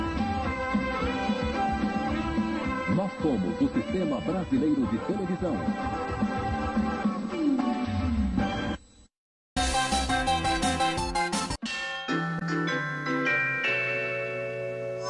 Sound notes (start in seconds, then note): 2.7 man speaking Portuguese